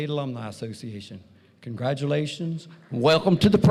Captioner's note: applause